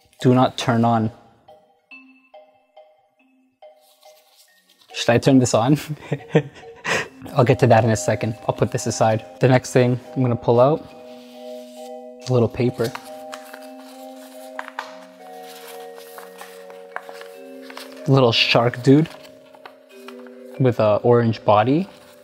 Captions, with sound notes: Do not turn on. (eerie music) Should I turn this on? (laughs) I'll get to that in a second, I'll put this aside. The next thing I'm gonna pull out, little paper. (paper rustles) Little shark dude, with an orange body,